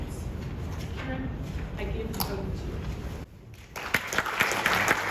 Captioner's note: audience applause